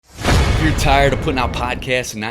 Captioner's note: metallic clanging